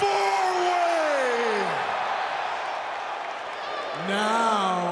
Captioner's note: crowd cheers